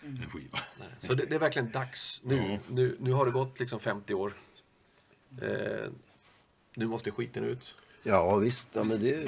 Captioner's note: laugh